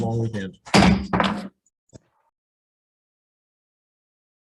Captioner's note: gavel bang